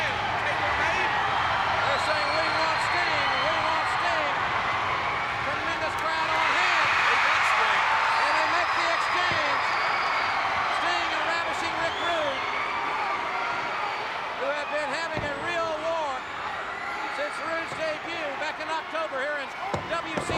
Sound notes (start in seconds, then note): 7.0 crowd cheers